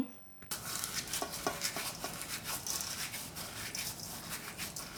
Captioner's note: crushing seeds